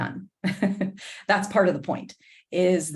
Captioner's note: laughter